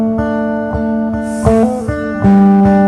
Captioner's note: guitar and piano melody & solos; deep breath